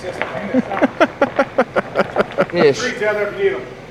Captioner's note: laughing